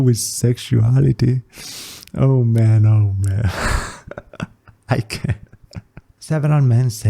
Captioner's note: laughs